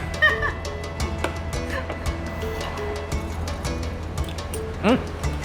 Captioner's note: laughs